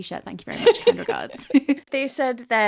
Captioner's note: laughing